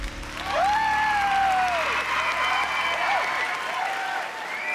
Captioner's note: music fades, crowd cheering; whooping